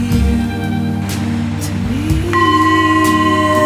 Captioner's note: bowl clang